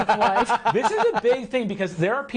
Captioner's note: laughing